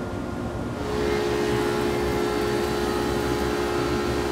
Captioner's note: machine whirring